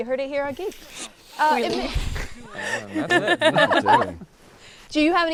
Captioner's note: people laughing